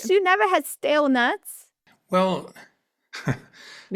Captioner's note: laughs